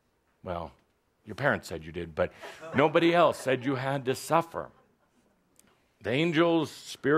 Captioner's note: some laughter